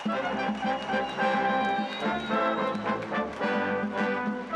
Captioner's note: applause